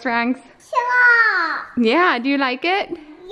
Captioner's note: girl babbles